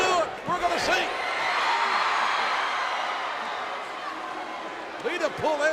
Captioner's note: audience cheering